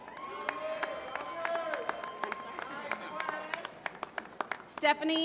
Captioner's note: applause